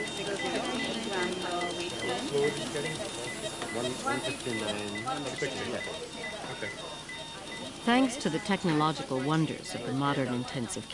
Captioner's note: machine beeping